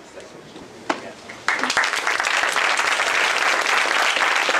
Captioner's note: applause